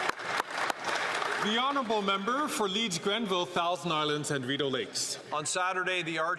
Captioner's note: some Applause